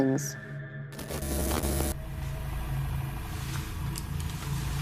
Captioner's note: static pulsing